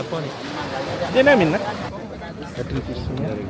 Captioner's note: speaking Tamil